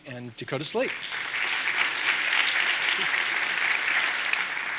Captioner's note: audience applauding